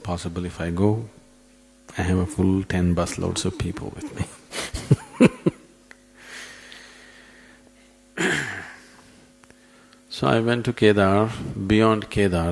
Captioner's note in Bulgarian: смее се